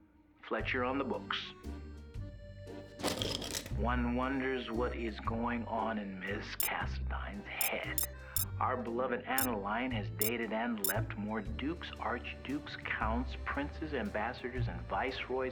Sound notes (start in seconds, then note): 3.1 pencils rattle; 7.1 comments start beeping in